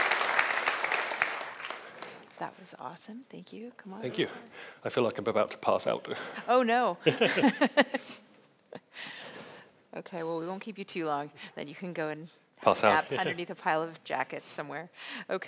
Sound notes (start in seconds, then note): 7.0 laughs